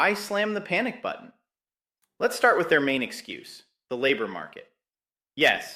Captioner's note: sarcastic